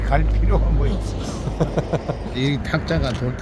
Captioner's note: laughs